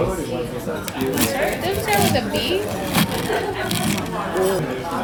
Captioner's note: crunch crunch